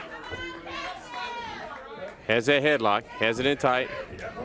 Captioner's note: crowd chatter